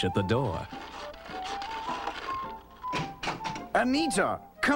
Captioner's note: scratching